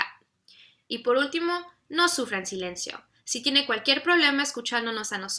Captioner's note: speaks in foreign language